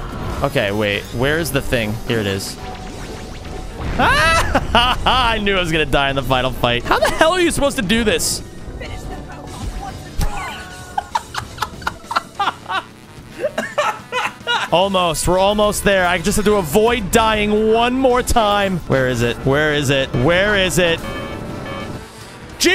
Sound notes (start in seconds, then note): 4.0 yelps, then laughs; 13.5 laughs